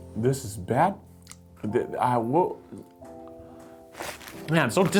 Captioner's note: stutters